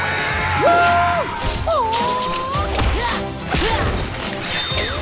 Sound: grunting

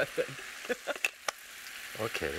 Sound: laughs

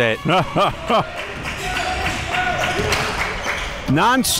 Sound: chuckles

